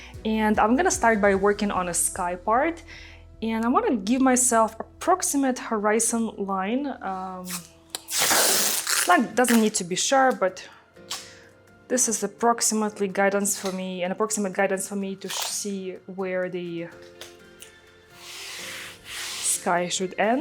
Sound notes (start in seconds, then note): 7.9 tape ripping; 8.1 bright music continues